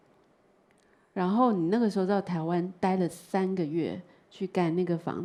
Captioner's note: Mandarin